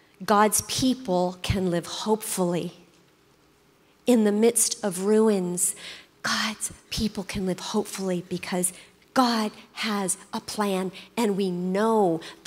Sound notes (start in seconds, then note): none